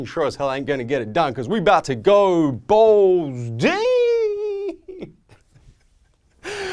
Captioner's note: laughs